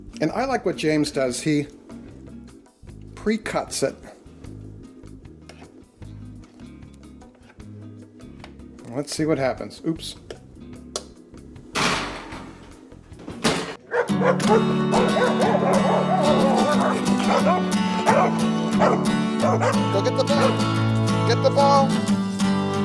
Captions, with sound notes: And I like what James does, he pre-cuts it. Let's see what happens. Oops! (dogs barking) (upbeat music) Go get the ball Get the ball.